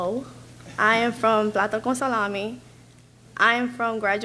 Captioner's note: speaks in a foreign language